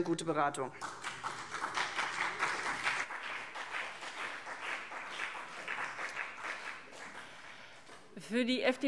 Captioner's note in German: Beifall CDU und BÜNDNIS 90/DIE GRÜNEN